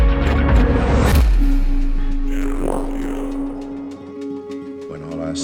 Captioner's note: slow whooshing